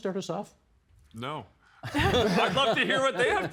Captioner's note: all laughing